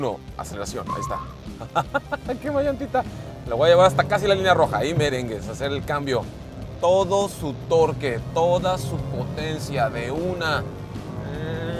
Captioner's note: laughter